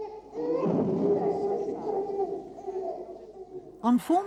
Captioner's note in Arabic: صراخ الطفل